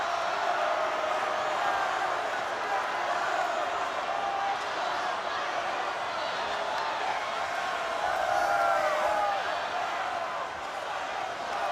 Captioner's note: crowd cheering